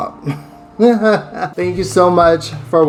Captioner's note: laughs